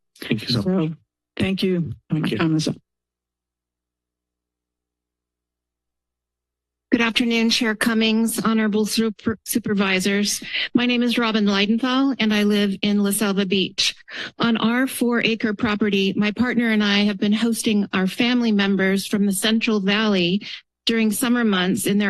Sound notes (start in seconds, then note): 3.2 silence